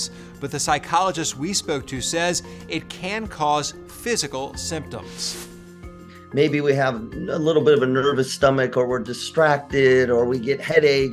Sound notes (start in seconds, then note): 5.1 transition whooshes